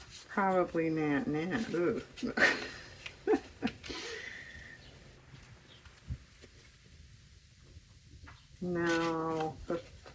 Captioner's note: laughs